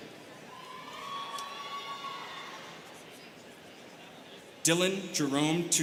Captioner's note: students cheering